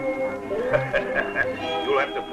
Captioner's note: laughing